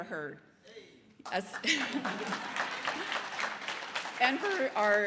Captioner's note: audience applause; laughs